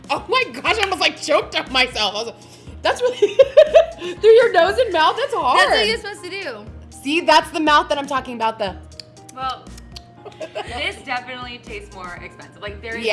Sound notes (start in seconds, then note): 3.0 laughs